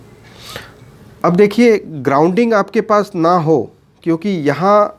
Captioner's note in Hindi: नाक से की जाने वाली आवाज़